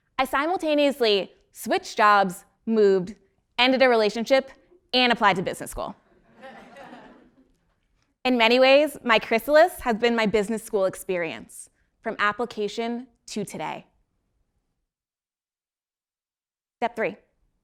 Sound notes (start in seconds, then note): 6.3 laugh